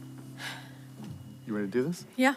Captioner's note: sighs